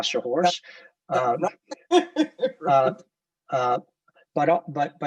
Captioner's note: laughing